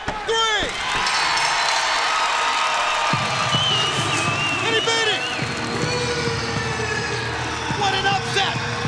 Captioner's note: crowd cheering; bell ringing